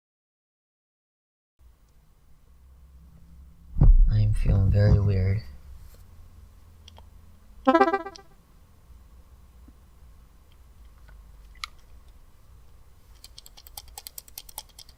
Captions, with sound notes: I am feeling very weird. (bright tones) (clicking sound)